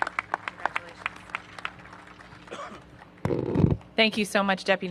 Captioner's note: applause